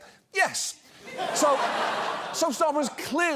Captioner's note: audience laughs